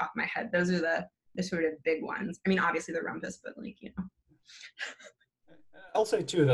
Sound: chuckles

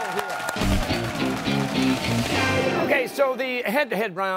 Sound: cheers and applause

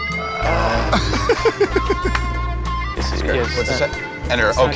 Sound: laughter

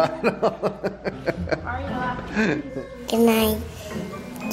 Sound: laughing

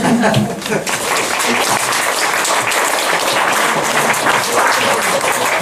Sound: clapping

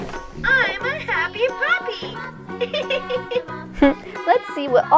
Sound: giggles

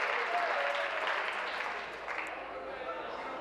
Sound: applause; cheers

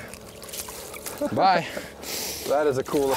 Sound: laughs

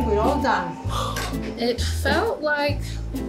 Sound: exhales deeply

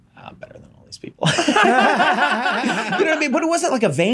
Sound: Charlie and Megan laughing

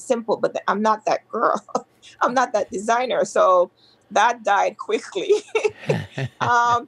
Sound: laughs

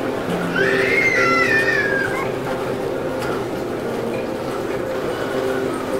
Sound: baby screaming; dramatic music

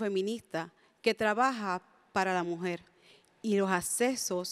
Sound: speaks in spanish

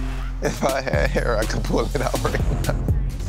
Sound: laughs; chuckles; intense music

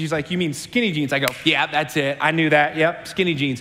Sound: claps

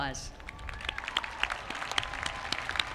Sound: applause

